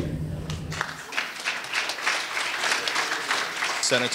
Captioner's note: audience applauding